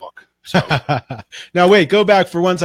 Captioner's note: laughing